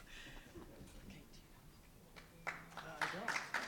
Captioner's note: background Talking; applause